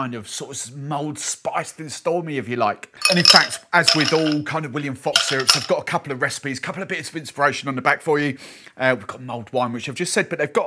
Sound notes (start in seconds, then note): 3.0 ice clinking